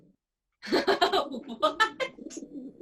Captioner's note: laughter